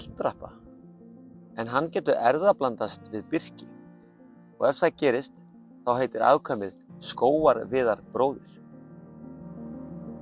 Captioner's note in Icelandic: In icelandic